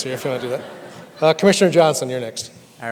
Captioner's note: audience laughs